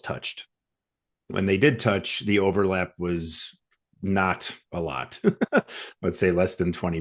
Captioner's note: laughs